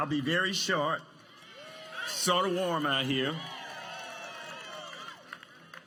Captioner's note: applause